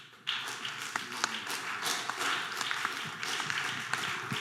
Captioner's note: audience applause